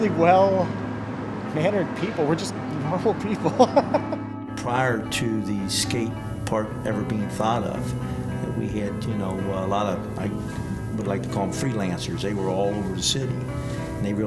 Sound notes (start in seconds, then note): 3.0 laughs